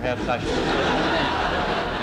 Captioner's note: laughter